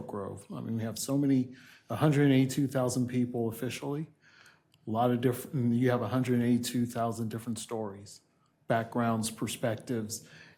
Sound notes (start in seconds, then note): none